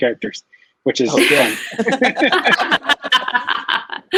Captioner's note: everyone laughs